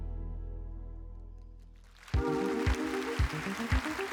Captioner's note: applause